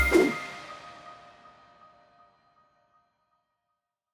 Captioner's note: logo whooshing